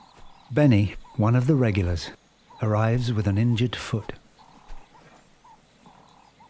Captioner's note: none